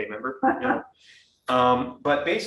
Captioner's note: woman laughing